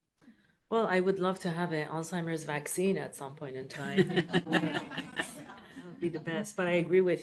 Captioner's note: laughs